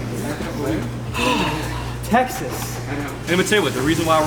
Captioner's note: sighs